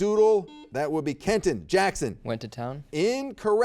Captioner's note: buzzer beeps